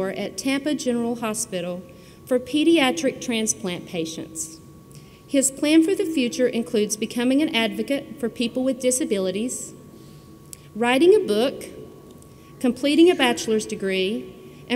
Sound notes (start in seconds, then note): none